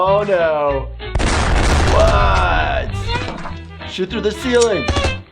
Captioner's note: gun shots